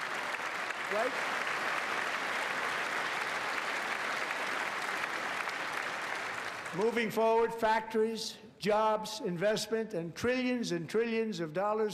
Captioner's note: applause